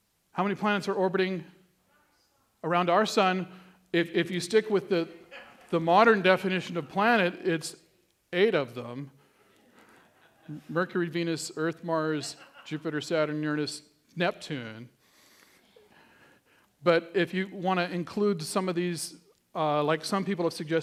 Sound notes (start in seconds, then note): 9.2 laughter